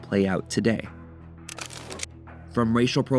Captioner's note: camera shutter clicks